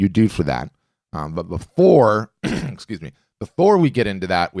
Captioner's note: throat clearing